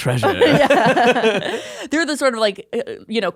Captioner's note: all laughing